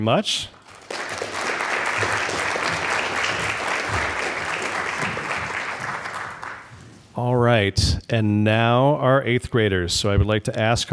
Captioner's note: applause